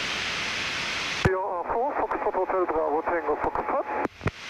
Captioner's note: aircraft calling